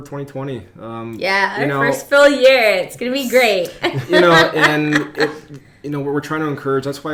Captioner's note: laughs